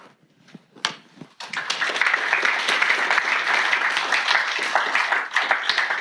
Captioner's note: applause from class